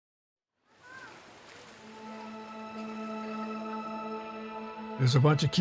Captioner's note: water rippling; gentle music